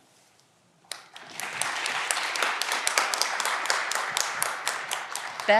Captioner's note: audience clapping